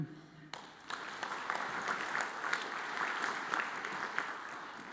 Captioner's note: audience applauds